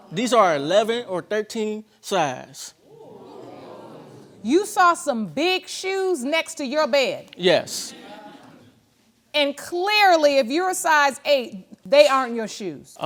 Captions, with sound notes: These are 11 or 13 size. (AUDIENCE GASPS) You saw some big shoes next to your bed? Yes. And clearly, if you're a size eight, they aren't your shoes.